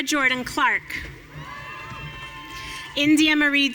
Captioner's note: audience cheering